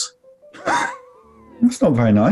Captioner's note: sniggering